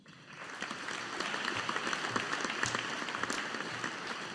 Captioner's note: audience applauding